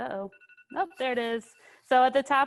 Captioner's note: alarm ringing